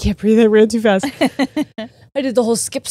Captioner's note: laughs